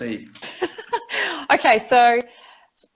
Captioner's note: laughs